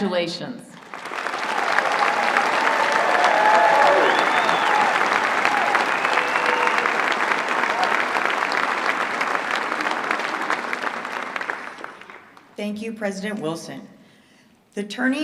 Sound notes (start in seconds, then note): 7.2 applause